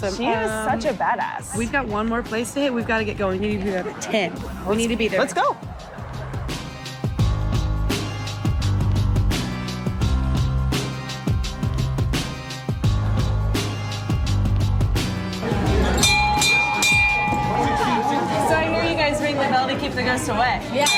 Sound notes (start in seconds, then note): 15.5 bell ringing